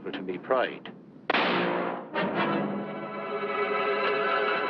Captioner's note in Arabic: طلقة نارية